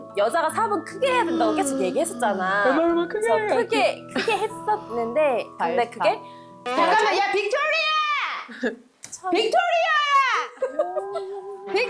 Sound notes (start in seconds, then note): 1.3 third yawn sound effect